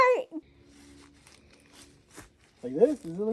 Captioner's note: sounds of slipping and sliding on foliage; muffled by mask